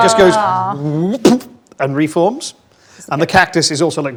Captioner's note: imitates popping